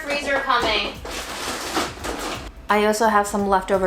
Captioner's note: containers rattling